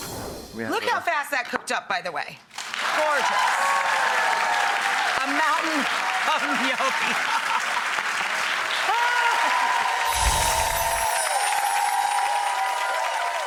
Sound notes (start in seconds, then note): 2.8 audience cheers; 7.1 audience cheers; 10.0 whimsical chimes